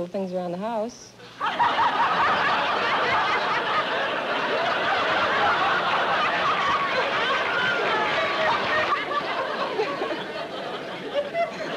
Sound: laughter

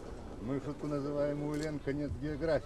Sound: russian speech

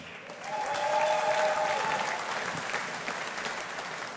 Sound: audience applauding

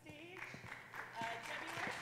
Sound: audience clapping

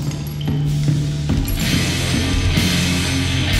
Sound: footsteps

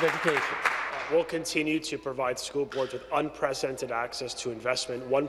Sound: some Applause

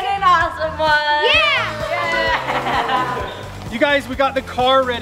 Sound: laughs

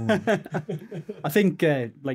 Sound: laughing

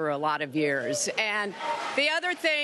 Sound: applause

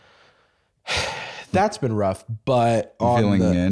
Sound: sighs

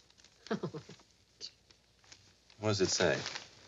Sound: <i> chuckling</i>

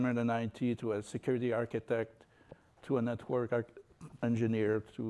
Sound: none

